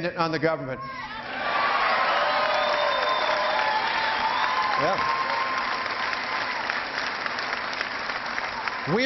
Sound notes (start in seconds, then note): 5.7 cheering